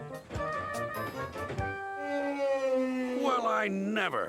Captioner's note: elephant trumpets